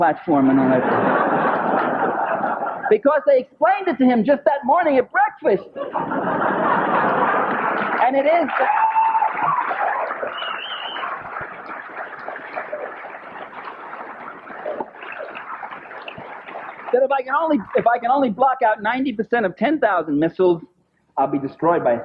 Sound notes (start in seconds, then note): 9.9 applause